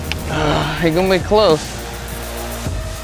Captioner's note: sighs